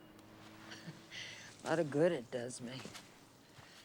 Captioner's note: chuckles